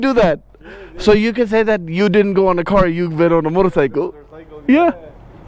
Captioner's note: laughs